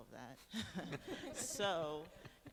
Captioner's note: laughing